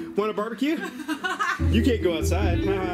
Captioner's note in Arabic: يضحك